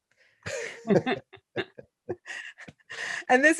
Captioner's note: laughter